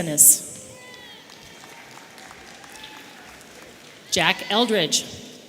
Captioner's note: audience cheering